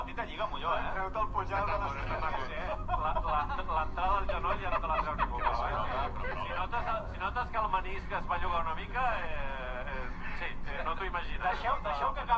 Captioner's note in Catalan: Sepa qué dicen, cosas en polaco, risas y cosas de raza superior